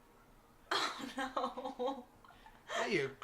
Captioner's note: laughing